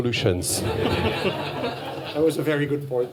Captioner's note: laughter